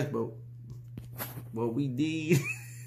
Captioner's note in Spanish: Risas